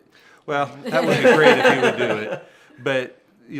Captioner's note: laughter